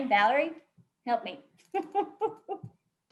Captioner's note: laughter